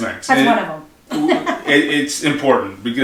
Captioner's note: laughs